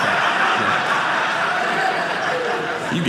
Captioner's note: audience laughing